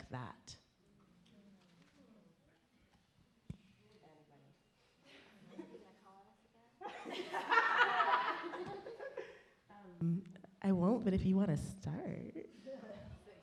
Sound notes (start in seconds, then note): 5.7 laughing; 11.9 laughing